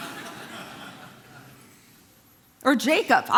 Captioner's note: congregation laughing